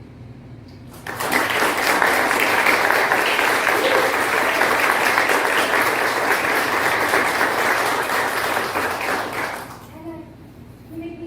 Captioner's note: applause